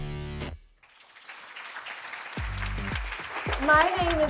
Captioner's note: audience applauding